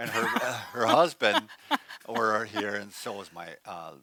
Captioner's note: laughs